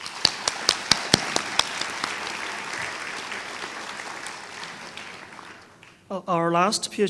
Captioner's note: applause